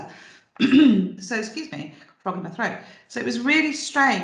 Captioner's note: clears throat